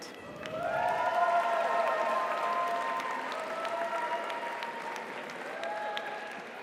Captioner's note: audience applauds; audience cheers